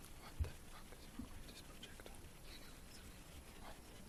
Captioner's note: whispering